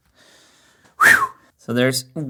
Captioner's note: phew